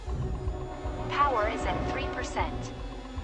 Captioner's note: automated Voice